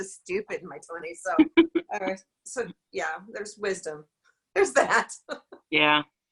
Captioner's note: laughs